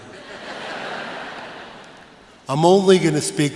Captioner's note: laughter